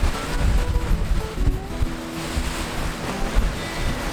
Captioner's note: wind blowing